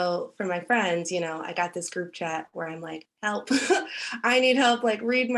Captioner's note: chuckles